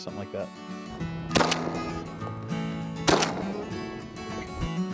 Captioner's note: gunshots